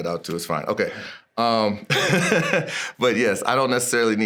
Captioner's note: laughs